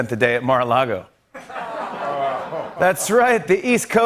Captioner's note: laughter, groaning